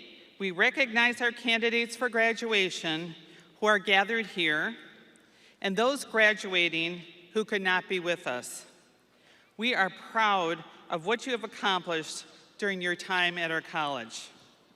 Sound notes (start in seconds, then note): none